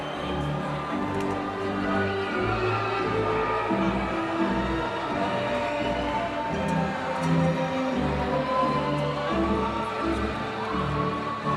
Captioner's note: applause